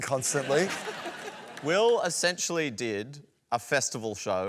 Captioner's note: laughter